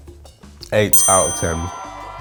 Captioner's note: bell ringing; cheering